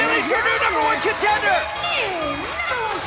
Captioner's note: bell ringing